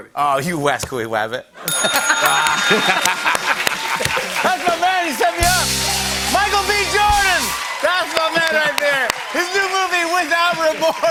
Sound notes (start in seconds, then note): 1.6 laughter; 1.6 bell dings; 4.0 normal voice